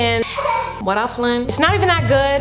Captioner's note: child crying